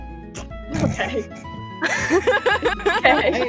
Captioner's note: snorts; laughs